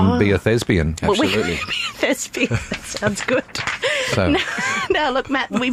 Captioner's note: laughter